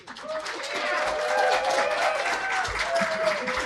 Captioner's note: cheers and applause